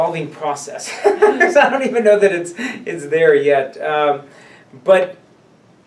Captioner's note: laughs